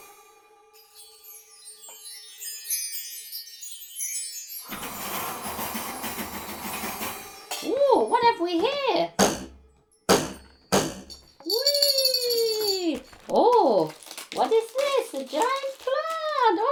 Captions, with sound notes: (*chimes tinkling*) (*wind sounds and rattling*) 'OOh! What have we here?!' (*ruler twanging*) 'Weeeeee' 'ooh! what is this? A giant plant!' (*rustling leaves*)